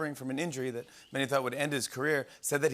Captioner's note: whistling